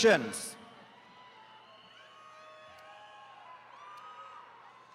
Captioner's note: attendees cheering